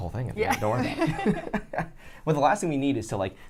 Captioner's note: laughs